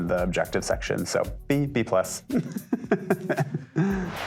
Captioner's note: laughter